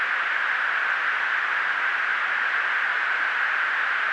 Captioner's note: static